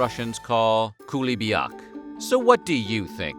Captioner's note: russian